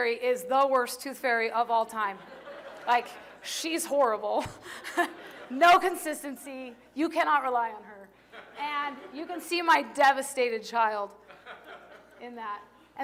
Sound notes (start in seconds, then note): 2.2 laughter